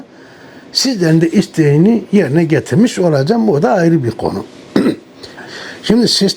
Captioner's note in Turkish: boğazını temizler